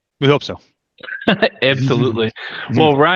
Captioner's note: chuckling